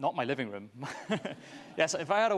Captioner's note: laughs